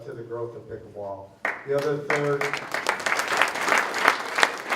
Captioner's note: applause